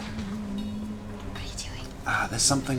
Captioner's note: whispers